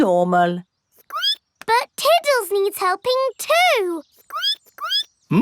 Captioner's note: squeaks